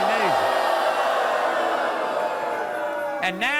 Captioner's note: audience booing